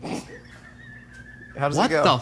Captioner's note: crew laughing